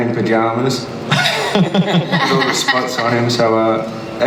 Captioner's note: panel laughs